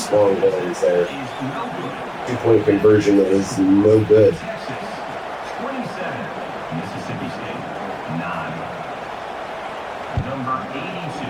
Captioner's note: crowd Noises